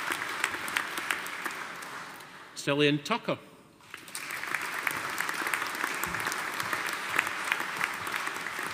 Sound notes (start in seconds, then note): 3.8 audience applauding